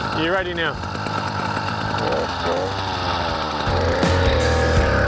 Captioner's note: motor revs; upbeat music